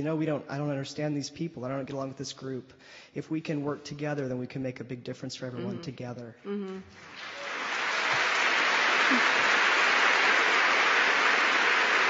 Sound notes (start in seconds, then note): 7.0 applause